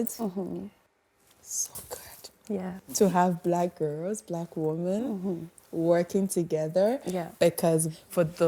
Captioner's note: whispers